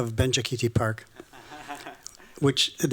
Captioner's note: chuckles